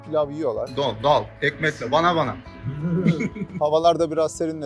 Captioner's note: laughs